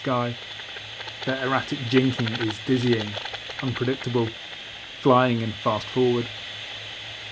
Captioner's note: bat detector clicking erratically